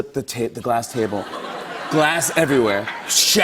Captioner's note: laughter